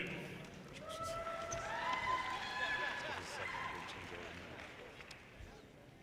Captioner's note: audience cheers and applause